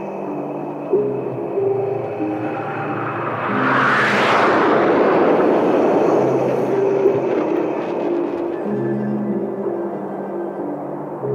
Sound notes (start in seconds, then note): 3.8 plane buzzing